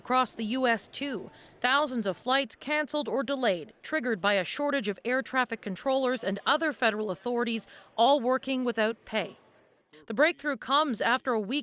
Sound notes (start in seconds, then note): none